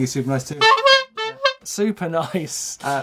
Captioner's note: horn honks